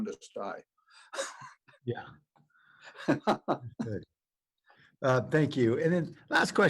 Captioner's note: laughter